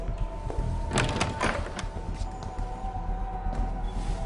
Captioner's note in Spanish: Ruido al abrir